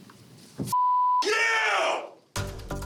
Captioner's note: shouting